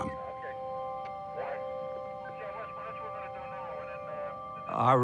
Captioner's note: people talking on police radios